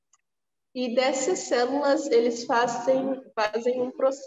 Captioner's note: speaking portuguese